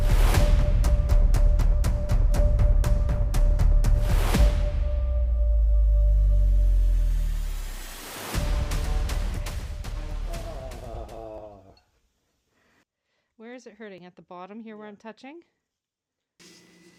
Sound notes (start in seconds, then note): 9.9 pained groan